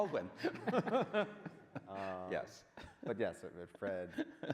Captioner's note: men laughing